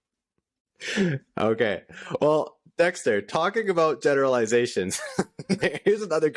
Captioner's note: laughter